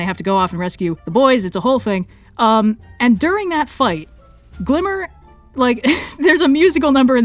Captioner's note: laughs